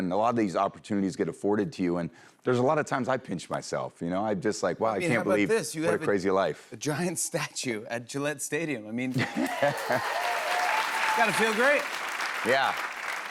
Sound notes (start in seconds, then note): 9.1 laughs